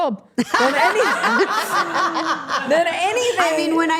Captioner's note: everyone laughing